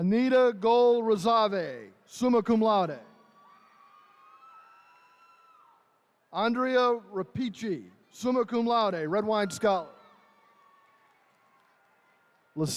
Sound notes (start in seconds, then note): 3.2 attendees cheering; 9.0 attendees cheering